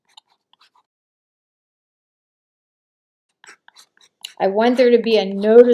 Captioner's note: mixing sounds